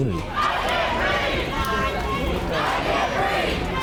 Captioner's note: crowd chanting